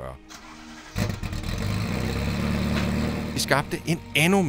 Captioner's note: An F40 starts up